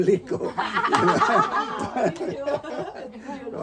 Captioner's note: laughter